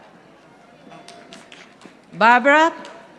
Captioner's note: audience applauding